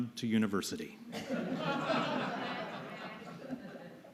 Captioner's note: laughter